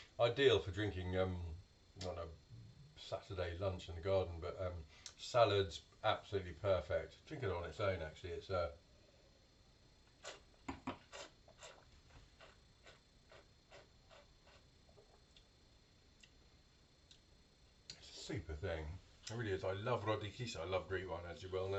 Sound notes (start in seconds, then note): 13.6 slurping